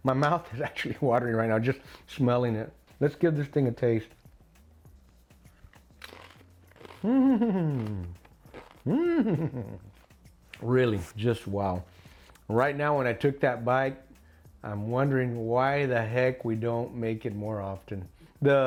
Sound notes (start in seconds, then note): 7.2 crunching sound